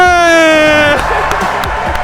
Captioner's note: laughs; applause